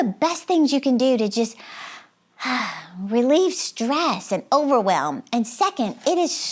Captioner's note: sighs